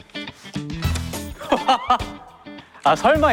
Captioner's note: hahaha